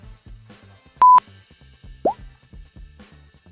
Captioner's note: sound beeps; sound pops